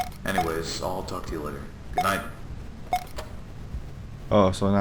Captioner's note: tape Stops